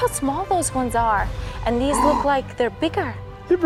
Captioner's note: gasps